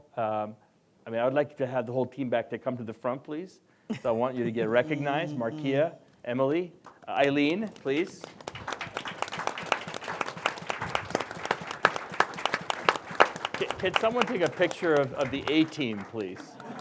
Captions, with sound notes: I mean, I would like to have the whole team back to come to the front. Please. So I want you to get recognized. Markeia. Emily. Aileen, please. [applause] Could someone take a picture of the A-Team, please?